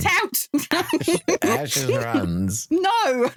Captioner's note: laughing